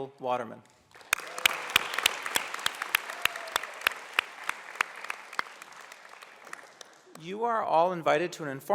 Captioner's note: applause